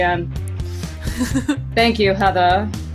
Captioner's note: laughs